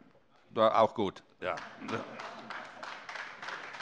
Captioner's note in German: Beifall AfD